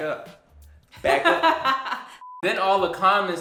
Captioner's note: laughs